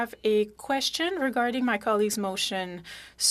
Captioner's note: speaking French